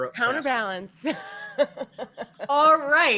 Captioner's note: laughs